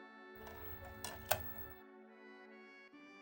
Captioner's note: disc locks in place